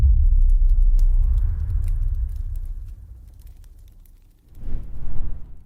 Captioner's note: fire sounds